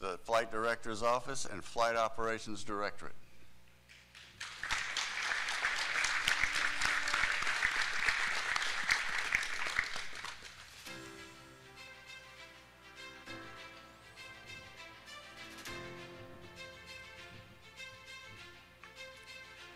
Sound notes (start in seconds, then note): 5.7 applause